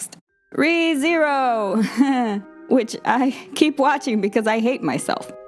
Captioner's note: chuckles nervously